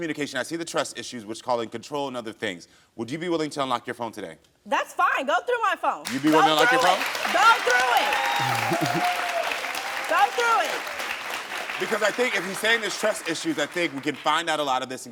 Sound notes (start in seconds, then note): 6.0 audience cheers